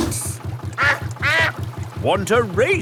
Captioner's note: quacks